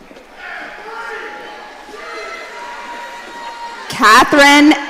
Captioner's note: audience cheering